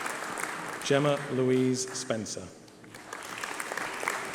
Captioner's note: applause